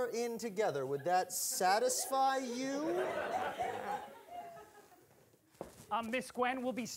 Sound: audience laughing

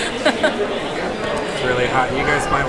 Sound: laughs

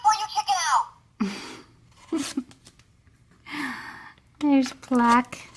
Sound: voiceover laughs; voiceover

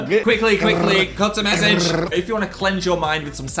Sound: rolling tongue

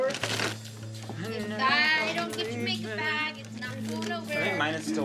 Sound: chatting

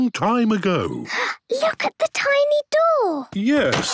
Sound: gasps

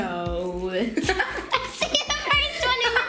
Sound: giggles

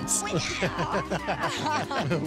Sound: laughter

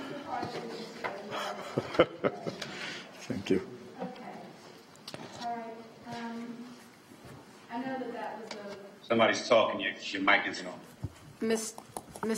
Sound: laughter

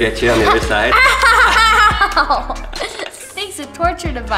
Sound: laughs

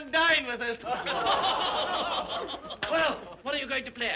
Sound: all laugh sardonically

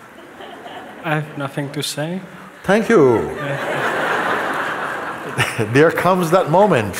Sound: laughter

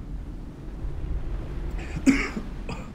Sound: coughing

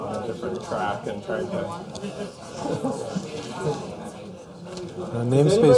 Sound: chatter

